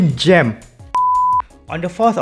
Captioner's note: beep